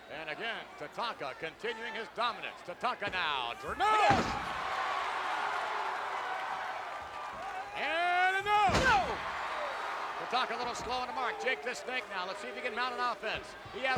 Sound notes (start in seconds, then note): 4.5 spectators cheering; 9.5 spectators cheering